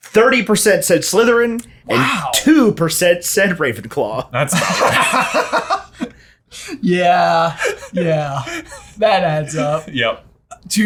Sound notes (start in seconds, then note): 4.4 both laughing